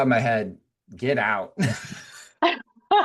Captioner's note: laughing